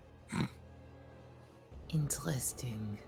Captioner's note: snorts